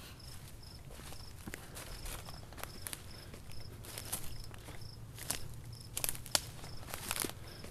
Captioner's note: insects buzzing; underbrush crunching